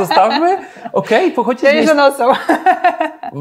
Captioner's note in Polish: śmiech